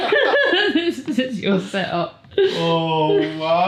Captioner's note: laughing